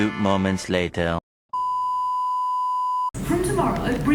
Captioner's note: broadcaster sound beeping